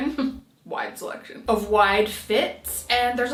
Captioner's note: laughing